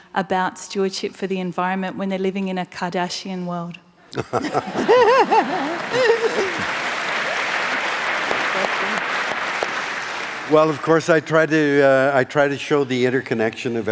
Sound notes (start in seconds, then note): 4.1 laughing; 6.3 applause